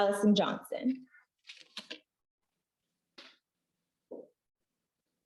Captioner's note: paper rustling